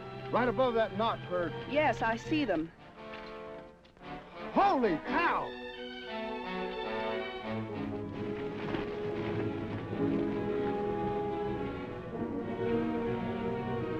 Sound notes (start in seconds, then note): 3.2 dramatic music; 7.5 horse hooves clopping; 11.0 dramatic music